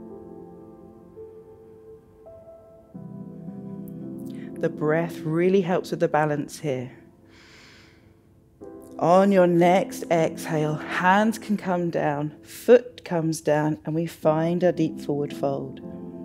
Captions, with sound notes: (serene music continues) The breath really helps with the balance here. (inhales) On your next exhale, hands can come down, foot comes down, and we find a deep forward fold.